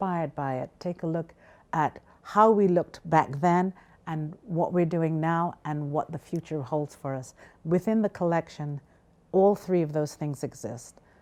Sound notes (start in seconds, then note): none